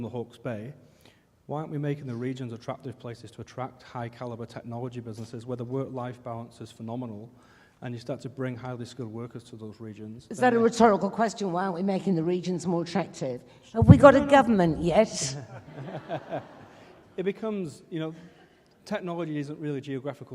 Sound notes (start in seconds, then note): 15.2 laughing